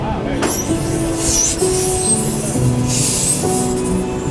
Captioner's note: flatbed screeching